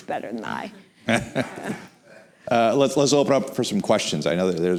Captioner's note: laughs